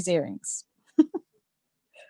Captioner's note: laughter